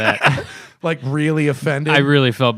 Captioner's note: laughter